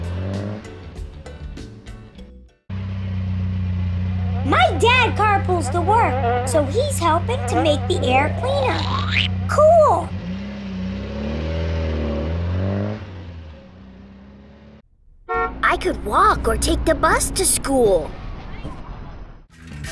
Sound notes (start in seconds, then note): 0.2 car revving noise; 2.7 fly buzzing and sound of approaching car; 8.7 slurping sound; 10.8 car revving noise; 15.3 bus beep; 19.7 background music